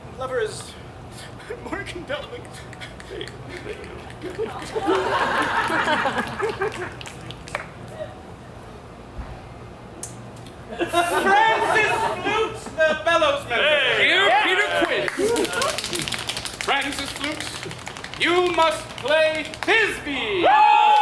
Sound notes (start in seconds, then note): 2.7 fingers snapping; 5.1 audience laughs; 20.3 actors cheering